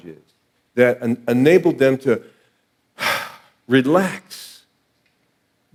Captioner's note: sighing